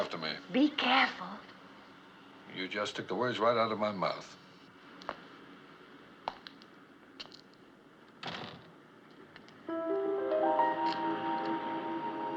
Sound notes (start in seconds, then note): none